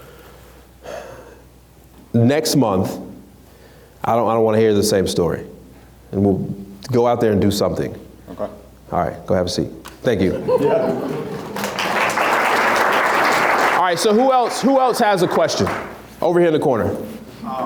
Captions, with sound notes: So next month I don't wanna hear the same story. Go out there and do something. - Okay. - All right go have a seat, thank you. (audience applauds) All right so who else has a question? Over here in the corner.